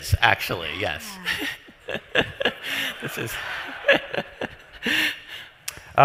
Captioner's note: laughs